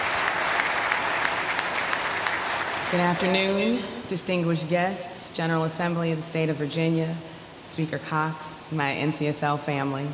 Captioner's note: applause